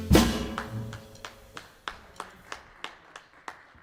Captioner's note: applause